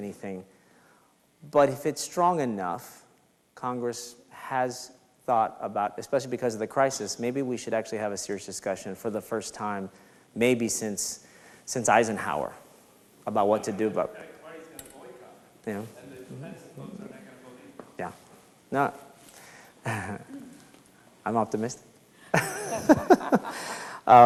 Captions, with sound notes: so it doesn't mean anything. But if it's strong enough, Congress has thought about, especially because of the crisis, maybe we should actually have a serious discussion for the first time, maybe since Eisenhower, about what to do about... (speaks faintly) Yeah, I'm optimistic (laughs).